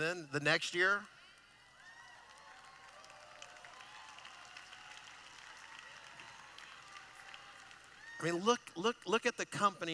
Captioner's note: applause